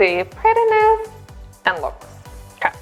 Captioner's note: microphone distorts speech